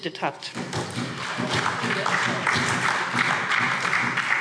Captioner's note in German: Beifall SPD